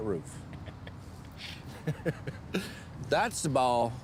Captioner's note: chuckles